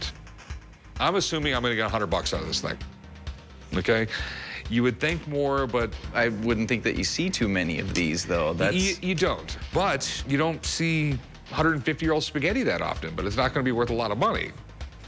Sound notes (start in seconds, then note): none